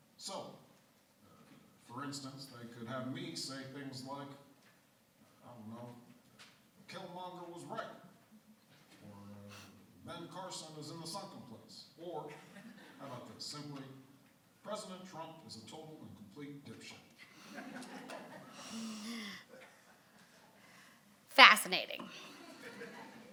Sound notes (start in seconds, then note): 17.6 audience laughing